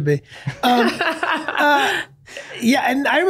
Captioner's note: laughing